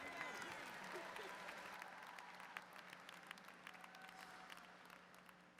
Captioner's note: crowd continues cheering